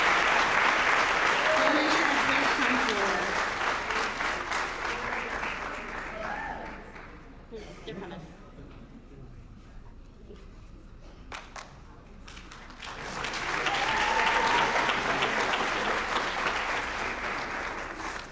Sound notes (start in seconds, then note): 0.0 applause